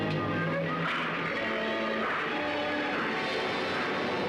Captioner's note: train chugging